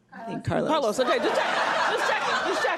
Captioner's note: laughs loudly